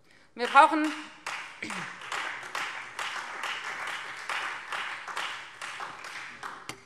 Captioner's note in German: Beifall Freie Demokraten und vereinzelt SPD